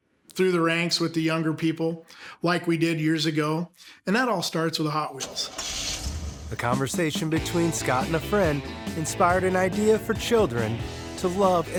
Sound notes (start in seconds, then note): 5.2 engine starting